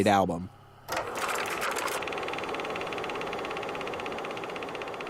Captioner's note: film reeling